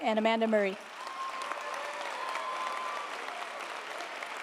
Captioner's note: audience applauding